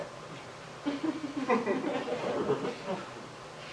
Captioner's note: chuckling